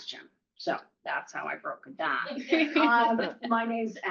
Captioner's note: laughter